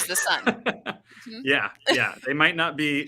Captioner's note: laughing